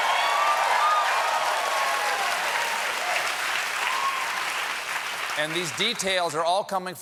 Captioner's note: cheers and applause